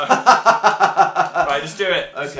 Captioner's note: sinister laugh